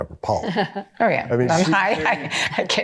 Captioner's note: laughs; chuckling